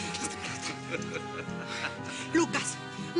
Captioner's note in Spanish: Risas